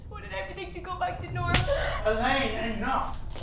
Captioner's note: slap